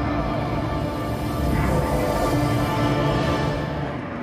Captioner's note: Dormammu screaming